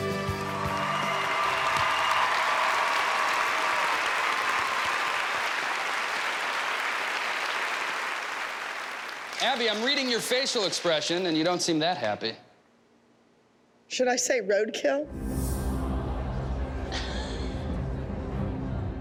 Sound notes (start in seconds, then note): 14.4 audience gasps; 15.8 laughs